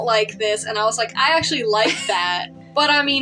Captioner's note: laugh